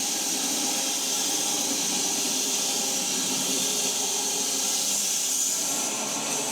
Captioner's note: log saw whirring continues